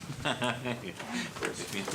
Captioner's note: laughs